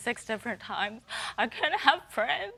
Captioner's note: voice breaking